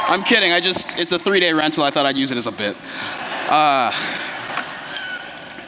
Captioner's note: laughter